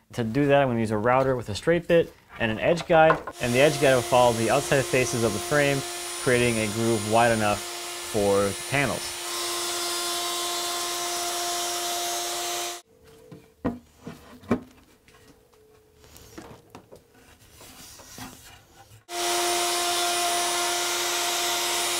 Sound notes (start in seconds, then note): 9.0 machine buzzing; 13.1 wood creaking; 19.1 machine buzzing